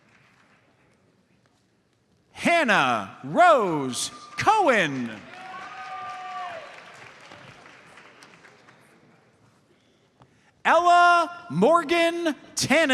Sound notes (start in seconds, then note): 4.1 audience cheers and applauds